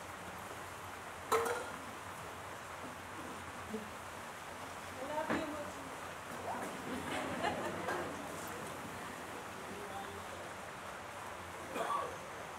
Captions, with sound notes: [Voice in audience] We love you, Mooji. [laughter]